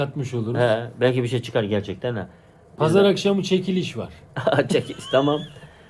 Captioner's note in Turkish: kahkaha